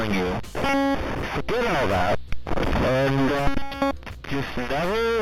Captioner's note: glitching noise